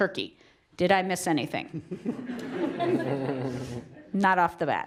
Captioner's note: laugh